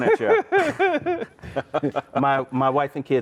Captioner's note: laughing